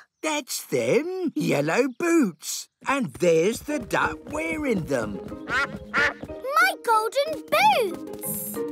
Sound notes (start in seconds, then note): 5.4 quacking